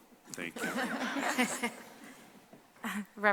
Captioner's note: laughter